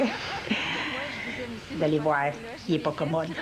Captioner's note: Rires